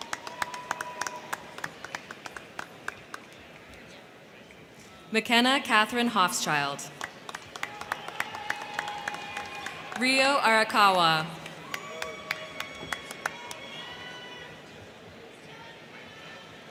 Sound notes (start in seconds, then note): 0.0 crowd cheering; 0.0 crowd clapping; 6.8 crowd clapping; 7.2 crowd cheering; 11.4 crowd cheering; 11.4 crowd clapping